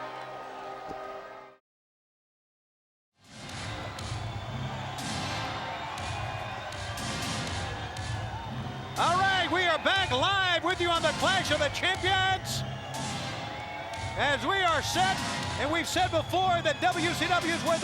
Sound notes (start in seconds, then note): 3.4 crowd clamoring; 3.4 fun rock music